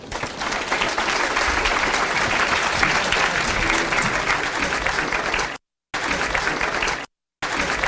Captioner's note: audience applauds